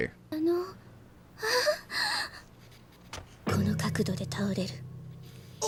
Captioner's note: speaking in foreign language